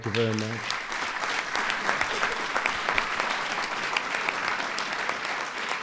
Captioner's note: applause